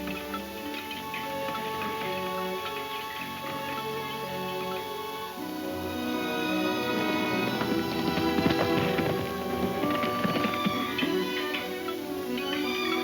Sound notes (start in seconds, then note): 5.4 hoof beats thundering; 9.6 metal clinking